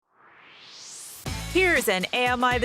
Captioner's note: swoosh